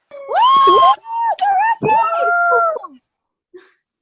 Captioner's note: cheering